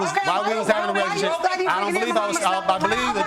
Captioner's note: women shouting over